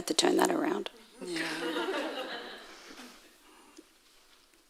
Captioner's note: audience laughing